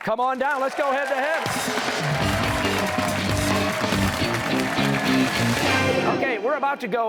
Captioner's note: cheers and applause